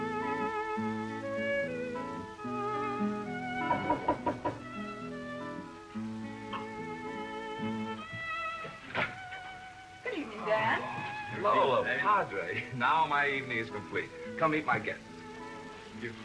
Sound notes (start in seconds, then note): 3.7 knocking at door